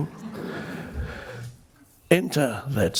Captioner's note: crowd laughs